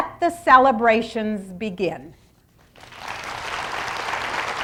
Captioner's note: applause